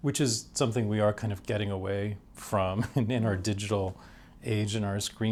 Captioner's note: chuckles